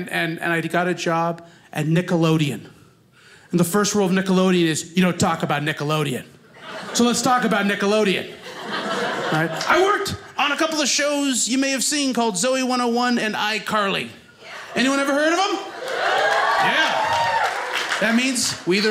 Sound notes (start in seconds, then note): 8.2 audience laughing; 14.6 audience cheers